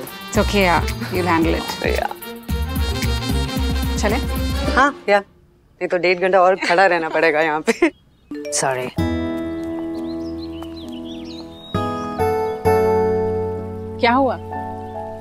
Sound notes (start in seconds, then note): 8.3 cell phone chimes